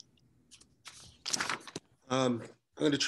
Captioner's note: pages rustling